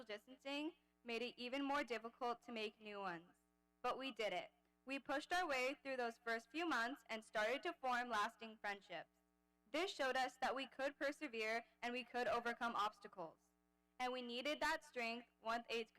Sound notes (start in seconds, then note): none